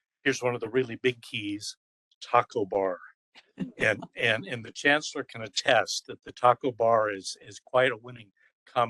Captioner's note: laughing